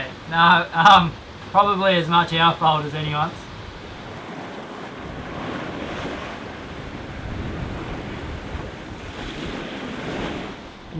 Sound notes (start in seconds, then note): 4.2 ocean waves